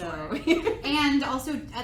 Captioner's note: laughs